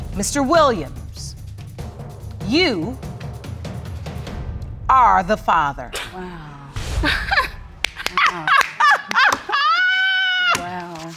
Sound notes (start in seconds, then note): 7.7 clapping and laughing; 8.0 laughs